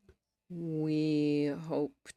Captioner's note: speaking French